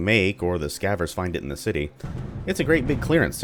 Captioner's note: thunder